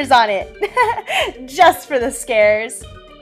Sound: laughs

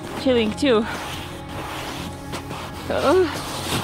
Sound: snow crunches

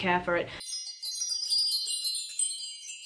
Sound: wind chimes

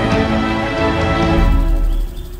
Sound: birds chirping

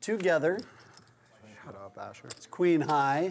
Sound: voiceover

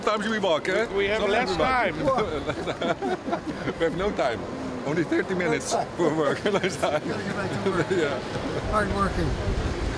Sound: laughter

